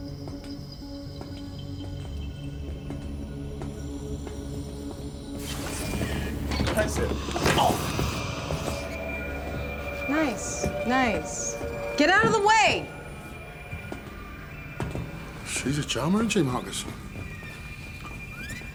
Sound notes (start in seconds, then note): 1.0 dramatic, suspenseful music; 5.4 door slides open